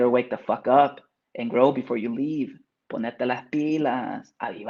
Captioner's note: speaks Spanish